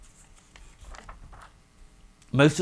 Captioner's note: paper shuffling